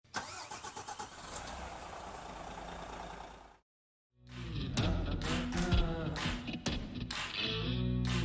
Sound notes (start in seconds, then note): 0.2 engine revving; 4.3 upbeat ambient music